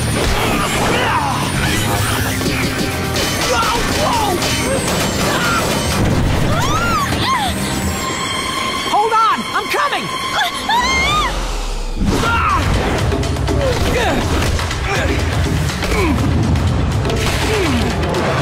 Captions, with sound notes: [grunting] Whoa! [screaming] Hold on! I'm coming! [screaming] [grunting] [grunting]